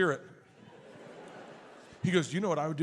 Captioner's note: audience laughs